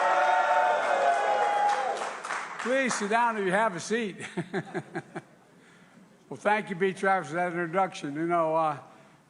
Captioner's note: applause